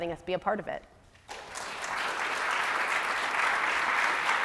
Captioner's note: applause